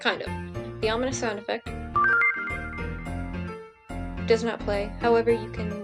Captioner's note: snd_ominous_cancel plays